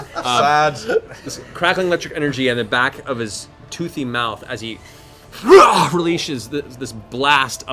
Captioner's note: snarl